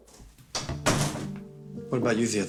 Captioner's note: cabinet thudding; light dramatic music